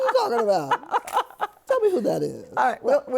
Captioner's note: laughter